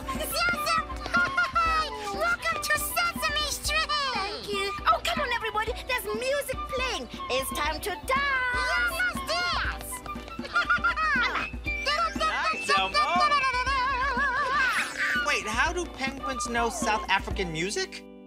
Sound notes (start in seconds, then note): 10.4 elmo giggles; 11.8 elmo utters along with music